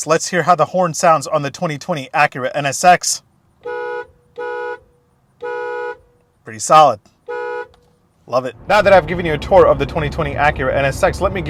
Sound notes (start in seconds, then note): 3.4 car horn honking